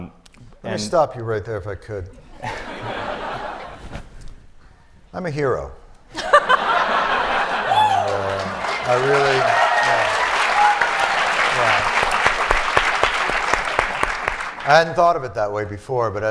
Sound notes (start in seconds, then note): 2.2 laughter; 6.1 laughter; 12.1 cheering